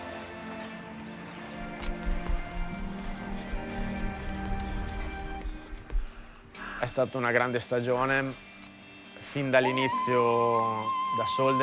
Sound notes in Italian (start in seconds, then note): 2.2 Marta fa un respiro profondo; 6.9 parla in italiano